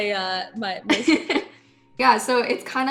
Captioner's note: laughing